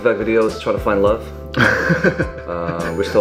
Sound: laughs

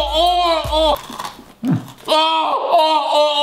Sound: screaming; kibble crunching

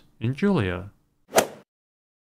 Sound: swoosh

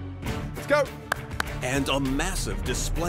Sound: clapping

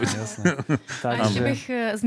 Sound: laughter

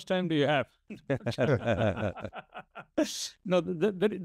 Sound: everyone laughing

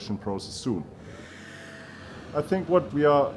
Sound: vehicle revving

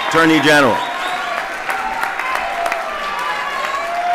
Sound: applause

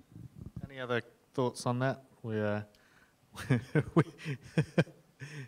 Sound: laughs

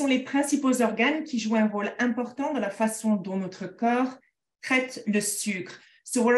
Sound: speaking in French

